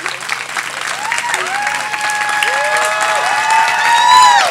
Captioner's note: audience cheering